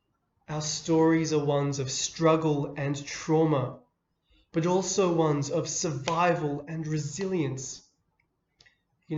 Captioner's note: clap